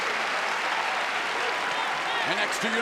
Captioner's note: crowd cheering